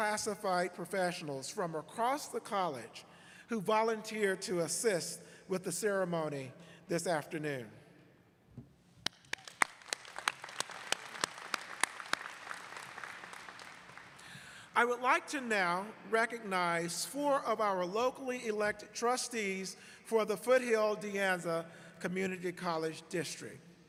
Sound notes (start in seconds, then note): 13.1 applause